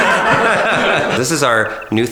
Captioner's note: laughing